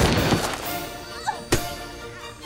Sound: screaming; gun fires; fleshy thunk; groaning

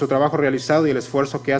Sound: speaking foreign language

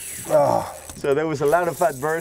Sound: groans

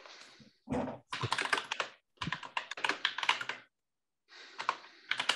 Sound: keyboard clattering

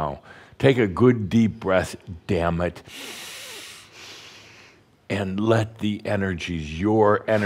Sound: Adamus takes a deep breath

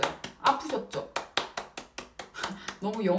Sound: clap time

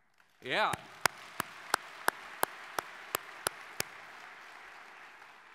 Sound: audience clapping

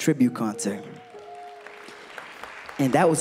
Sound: applause

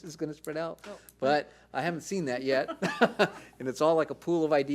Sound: laughs

